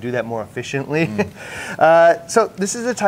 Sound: chuckles

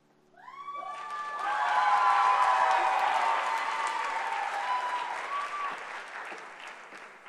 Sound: applause

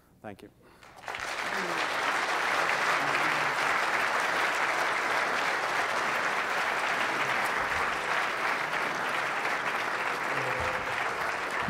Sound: applause

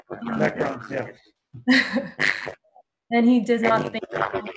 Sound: microphone feedback

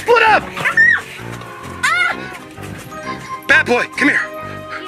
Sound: the Assistant Screams

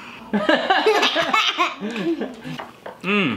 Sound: laughing

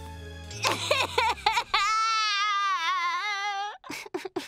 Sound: crying

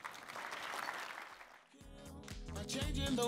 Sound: applause; uptempo music

